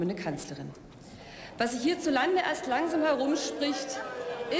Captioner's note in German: Zwischenrufe